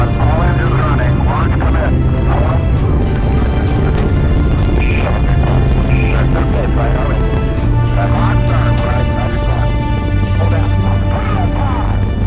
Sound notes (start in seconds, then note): 0.2 radio chatter: all engines burning, launch commence!; 5.9 radio chatter